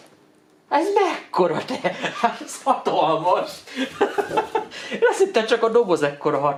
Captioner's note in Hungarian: nevetés